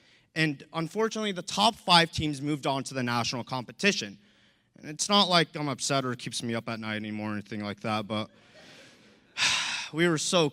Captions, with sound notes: Unfortunately, the top five teams moved on to the national competition. It's not like I'm upset or it keeps me up at night any more or anything like that but... (laughter) (sigh)